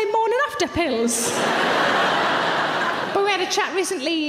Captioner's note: audience laughing